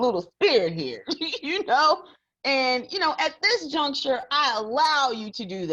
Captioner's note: laughs